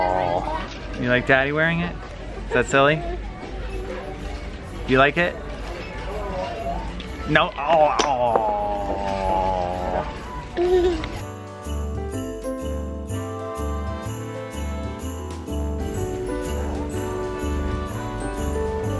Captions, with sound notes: You like Daddy wearing it? Is that silly? You like it? No, aww! (baby laughs) (holiday music)